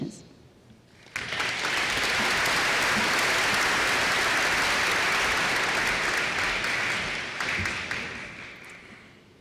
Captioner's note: applause